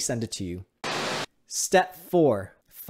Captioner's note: TV buzzing